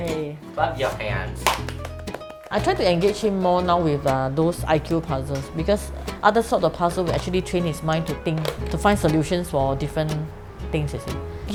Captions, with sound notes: Yay! Clap your hands. *claps* I try to engage him more now with those IQ puzzles because other sorts of puzzles will actually train his mind to think, to find solutions for different things, you see.